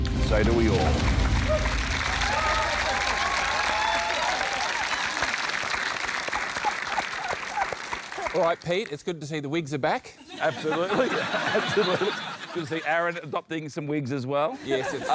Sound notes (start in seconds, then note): 1.8 cheering, applause; 10.2 laughter